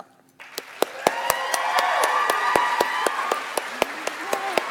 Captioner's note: audience applauds